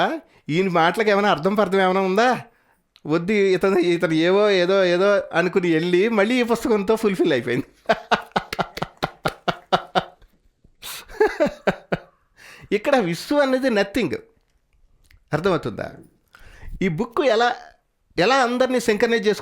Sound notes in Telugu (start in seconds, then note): 7.5 నవ్వు